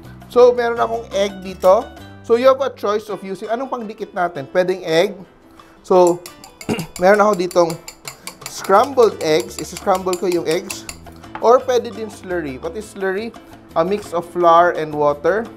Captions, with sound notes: So, I have an egg here. So you have a choice of using -- What do we use to seal the wrapper? It can be egg -- So -- [beating sound] [clears throat] I have here -- [beating sound] scrambled eggs -- I am doing scrambled eggs. Or you can use slurry -- What is slurry? -- A mix of flour and water.